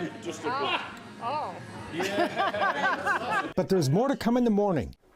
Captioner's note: laughing